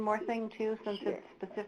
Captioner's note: voiceover